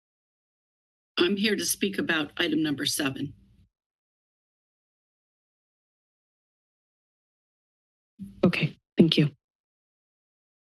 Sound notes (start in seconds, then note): 3.5 silence